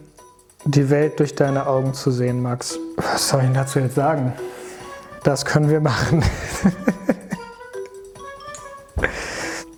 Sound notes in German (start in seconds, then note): 5.9 lacht; 7.7 Neugierige Musik